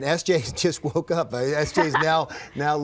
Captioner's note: laughs